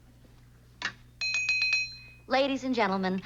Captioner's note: taps glass